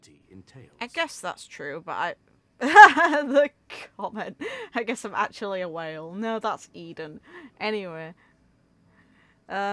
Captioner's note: laughs